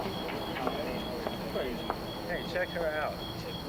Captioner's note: chatter